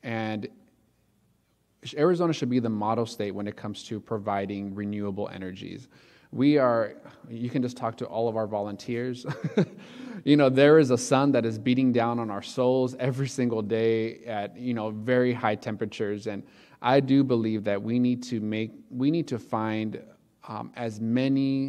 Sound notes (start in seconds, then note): 9.3 laughs